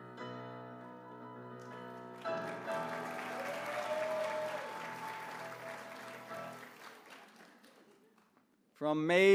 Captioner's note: applause